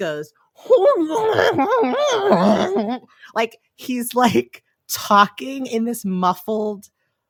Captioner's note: muffled screaming